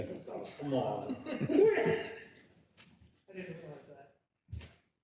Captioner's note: laugh